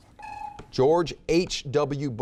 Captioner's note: timer beeps